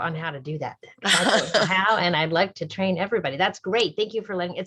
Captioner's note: laughter